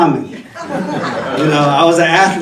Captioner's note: attendees laughing